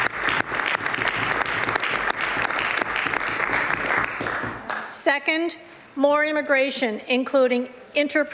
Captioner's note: some Applause